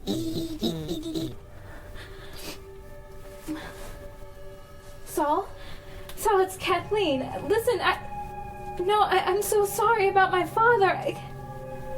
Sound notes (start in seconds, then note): 1.8 cries